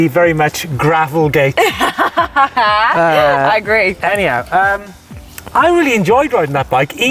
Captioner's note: laughs